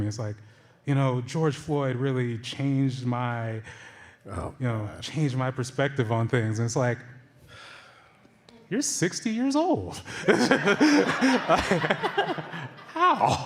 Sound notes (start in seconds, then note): 10.1 laughter